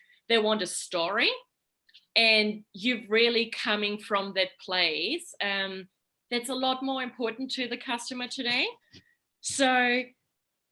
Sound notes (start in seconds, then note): none